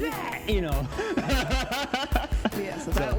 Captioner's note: laughs